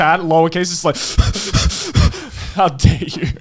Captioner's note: quivering